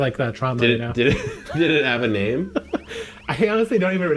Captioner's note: laughs